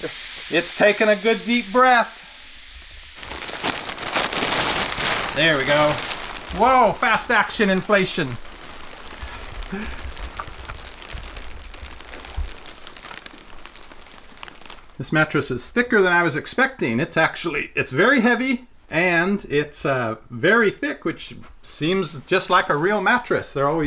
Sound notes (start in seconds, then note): 9.6 chuckles; 10.3 plastic popping